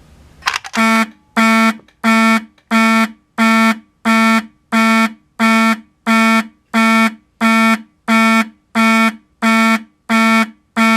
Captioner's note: slower fire beeper beeping noises